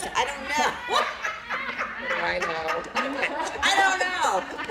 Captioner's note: laughter